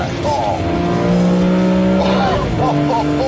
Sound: high revving BMW noises

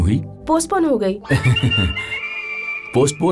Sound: laughing

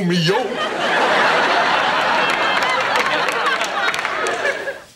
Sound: audience laughing

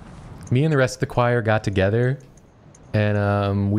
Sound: young woman voice

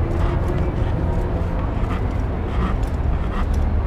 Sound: rope sounds

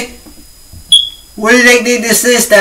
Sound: free Smoke Detector Sound Effect

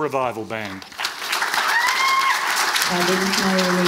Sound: audience applauds

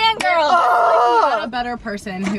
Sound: screams

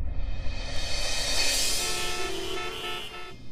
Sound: cars honking

